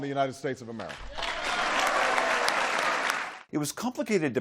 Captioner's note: applause